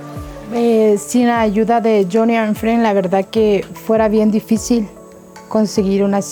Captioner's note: Levi's mother speaking in a foreign language